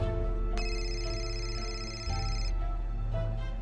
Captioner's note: cell phone ringing